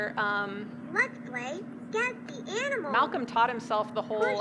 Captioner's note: electronic Voice